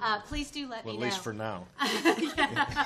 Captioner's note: chuckles